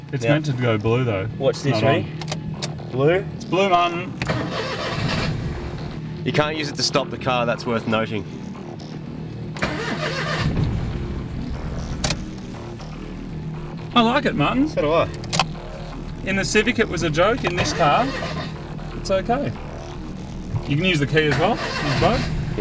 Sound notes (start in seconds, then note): 4.1 engine cranking; 4.2 engine turns over; 9.3 engine cranking